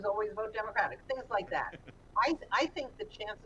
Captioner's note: Jonah laughs